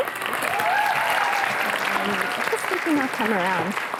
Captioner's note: applause